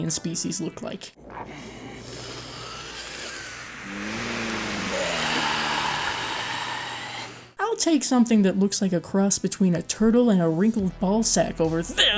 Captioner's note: deep breathing